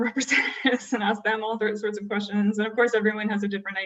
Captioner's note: laughter